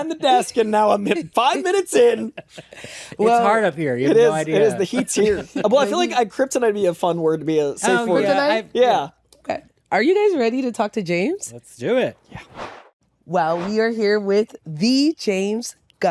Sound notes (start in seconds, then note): 4.2 laughs